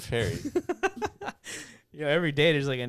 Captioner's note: laughing